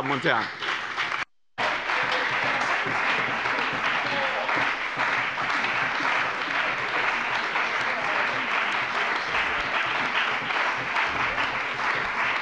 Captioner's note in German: Beifall bei dem BÜNDNIS 90/DIE GRÜNEN und der CDU